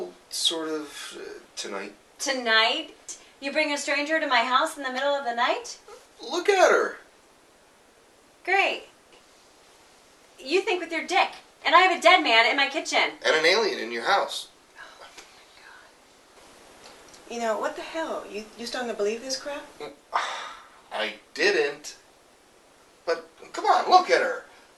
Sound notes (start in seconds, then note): 14.6 Margaret sighs; 20.1 sigh